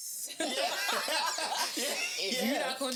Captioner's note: laughing